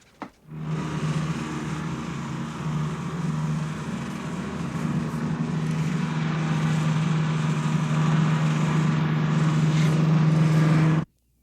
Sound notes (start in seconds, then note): 0.6 motor buzzing